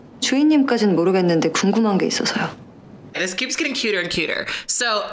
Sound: speaking Korean

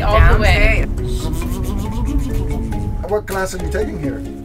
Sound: mouth noises

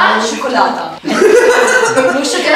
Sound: laughing

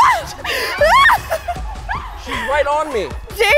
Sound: screams

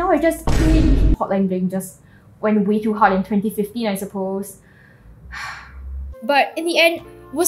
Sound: sighs

